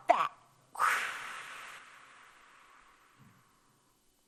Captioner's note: exhaling